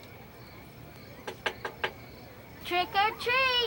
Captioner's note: door knocking